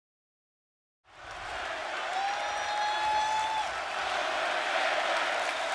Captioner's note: audience chanting and clapping